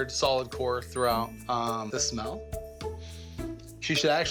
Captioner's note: sniffs